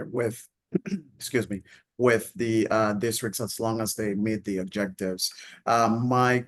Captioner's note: clears throat